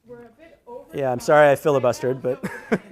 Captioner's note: laughs